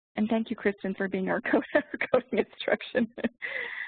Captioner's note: laughing